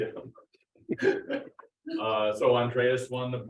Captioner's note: laugh